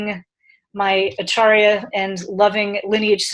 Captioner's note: speaking in foreign language